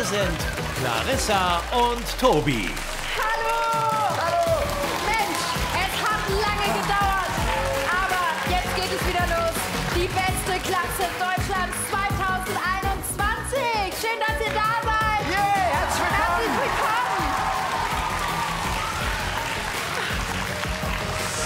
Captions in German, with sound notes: Hier sind Clarissa und Tobi. Hallo! Hallo! Mensch, es hat lange gedauert. Aber jetzt geht es wieder los. "Die beste Klasse Deutschlands 2021". Schön, dass ihr da seid. Herzlich willkommen. *Jubel und Applaus*